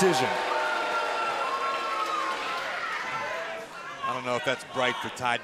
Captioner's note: cheers & boos